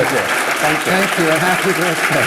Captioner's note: applause